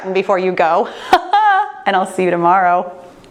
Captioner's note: laughs